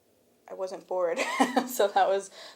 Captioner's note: chuckles